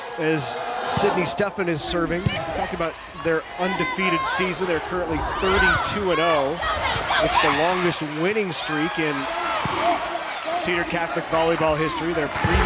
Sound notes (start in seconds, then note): 6.4 players yelling